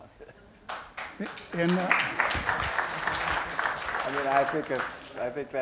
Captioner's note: applause